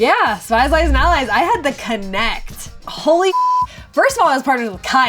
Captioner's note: beep